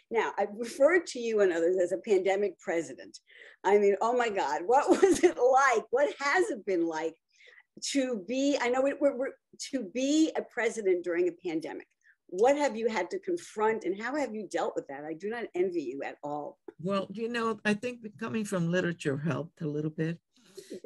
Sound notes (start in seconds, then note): 5.5 laughs